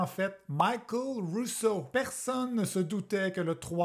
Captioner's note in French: accent anglais